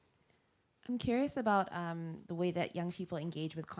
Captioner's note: voiceover